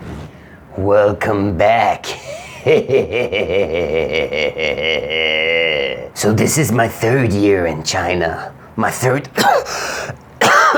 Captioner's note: cough